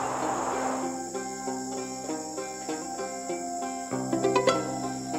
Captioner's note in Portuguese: Ruídos de mata